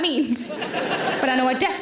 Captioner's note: audience laughing